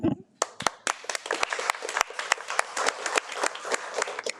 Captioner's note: attendees applaud